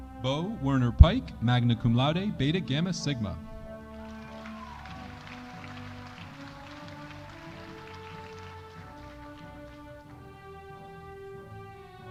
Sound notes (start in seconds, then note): 3.7 audience applauding